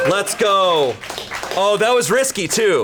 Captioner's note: colleagues applauding